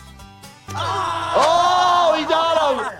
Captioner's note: Wee Man screams